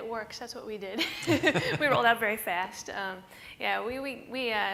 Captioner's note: laughter